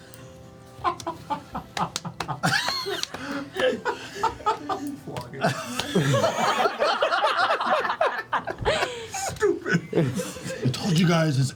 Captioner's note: laughter